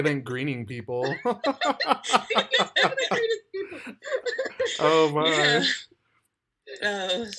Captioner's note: laughing